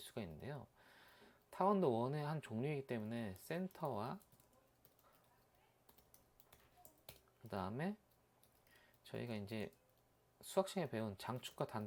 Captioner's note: typing hard